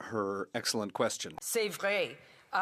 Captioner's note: speaking French